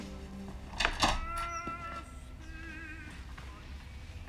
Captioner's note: door opening